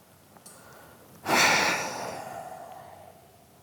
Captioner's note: exhales deeply